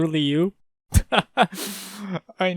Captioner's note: chuckle